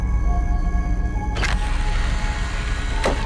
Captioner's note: laser shot